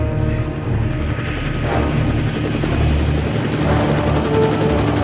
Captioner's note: helicopter whizzing